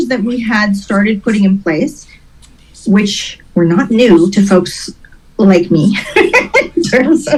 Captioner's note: laughs